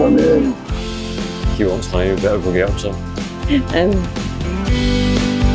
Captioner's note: laughter